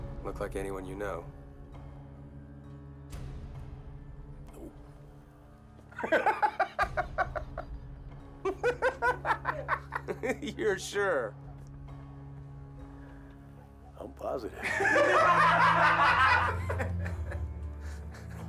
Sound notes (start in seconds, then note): 5.9 all laugh; 14.6 loud laughter